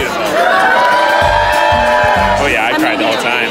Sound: crowd cheering

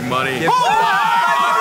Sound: cheering

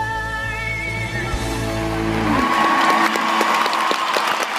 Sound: applause

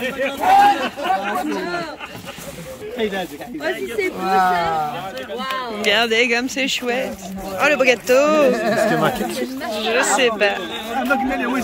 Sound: laughs

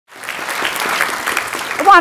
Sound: audience applauding

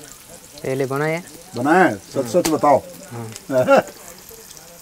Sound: laughs

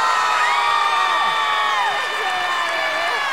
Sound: screaming

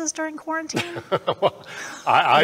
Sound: laughing

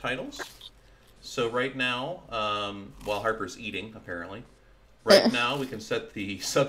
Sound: Harper eating noises

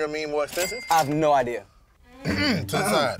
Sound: both clearing their throats loudly

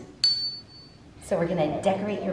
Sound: bell dings

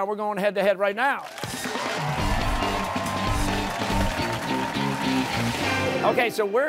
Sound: cheers and applause

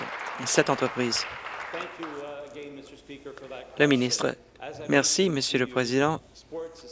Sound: applause

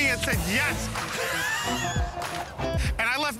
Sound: laughter

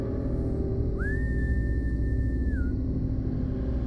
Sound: whistling

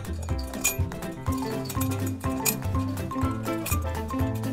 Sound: fence clinking

